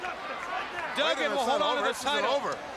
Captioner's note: crowd chatter